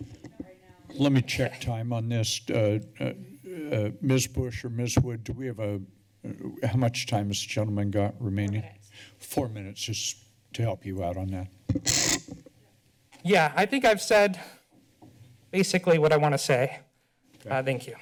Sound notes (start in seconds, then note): 11.7 creaking sound